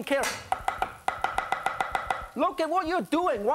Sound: clanking

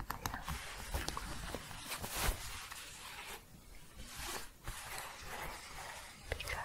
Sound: shuffling, then scratching

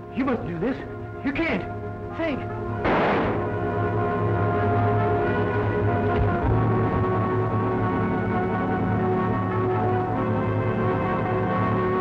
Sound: gunshot

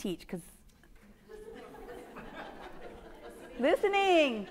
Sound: audience laughing

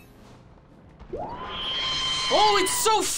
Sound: screaming

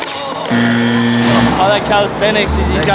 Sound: buzzer

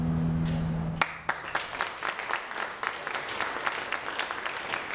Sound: applauding

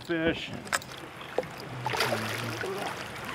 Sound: fish splashing

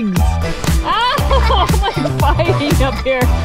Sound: laughs

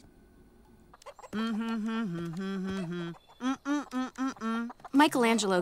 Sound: humming

